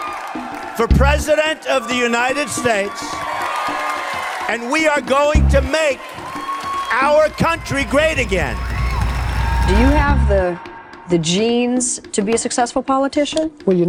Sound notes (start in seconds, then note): 3.2 attendees applauding; 3.2 attendees cheering; 8.8 attendees applauding; 8.8 attendees cheering